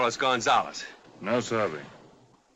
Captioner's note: in spanish